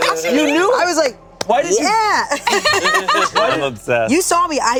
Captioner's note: group laughing